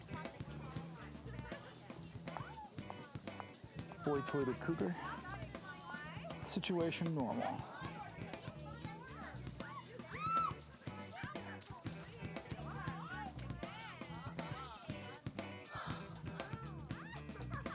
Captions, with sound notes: - Boy Toy to Cougar, situation normal. (screaming) (catchy rock music)